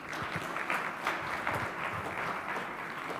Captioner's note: audience applauding